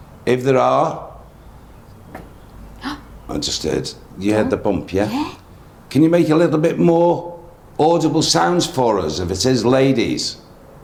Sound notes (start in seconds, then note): 1.9 faint thudding; 2.7 gasps